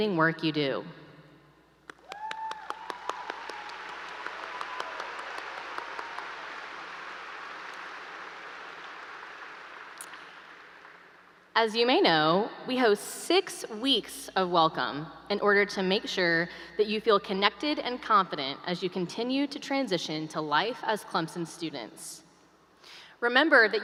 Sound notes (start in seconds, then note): 0.0 applause; 4.8 applause